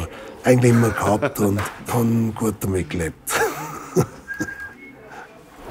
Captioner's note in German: lacht